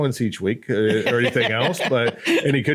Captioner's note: laughs